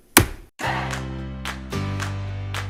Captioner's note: gavel banging; upbeat music